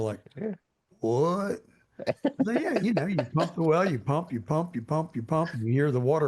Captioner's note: laughing